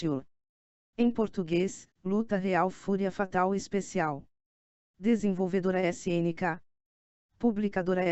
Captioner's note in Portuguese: em Português